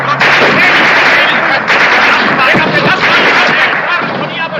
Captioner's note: shouting indistinctly in german